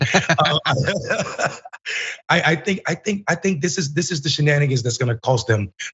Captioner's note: laugh